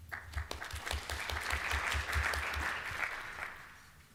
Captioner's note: applause